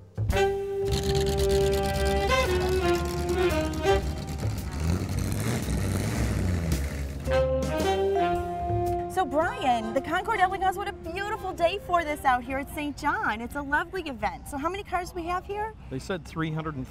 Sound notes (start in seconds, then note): 0.8 revving engines